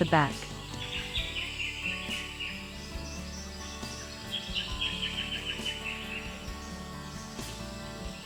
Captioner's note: birds sounds and chirps